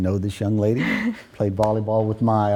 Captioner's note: soft chuckle